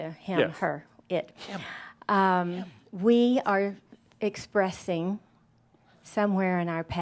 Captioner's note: whispering